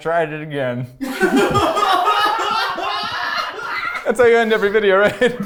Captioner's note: people laughing